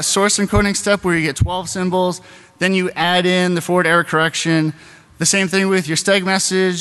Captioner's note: beeping noises